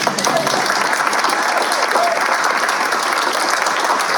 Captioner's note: applause